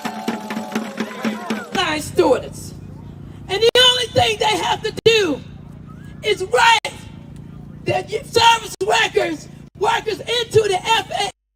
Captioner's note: cheering and applause